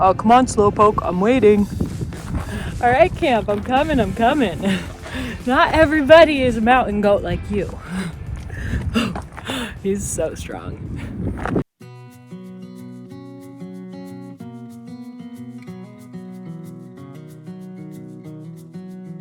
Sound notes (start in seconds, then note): 4.2 laughs; 8.7 laughs; 11.8 gentle cheerful music